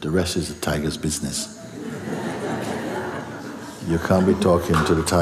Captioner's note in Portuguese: risos